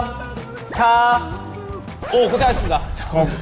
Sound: nom-nom

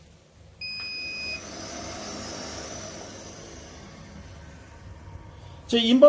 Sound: Inverter Warm-up Noise

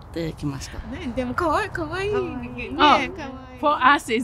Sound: foreign language

